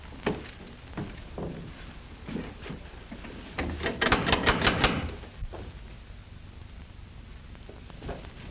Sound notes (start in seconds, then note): 3.9 knocking at door